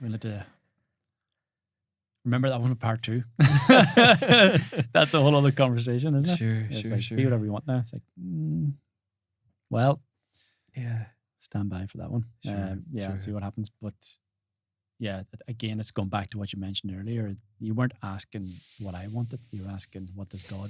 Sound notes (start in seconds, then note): 3.4 both laughing